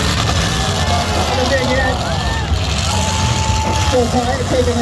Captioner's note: crowd